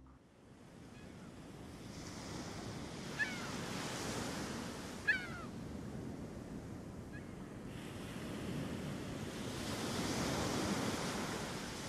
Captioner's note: sounds of seagulls and crashing waves